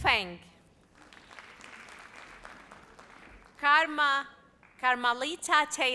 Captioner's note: audience applauds